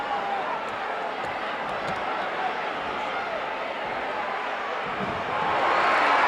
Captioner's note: audience chattering continues